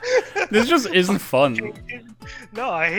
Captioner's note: laughter